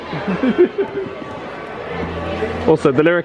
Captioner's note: laughing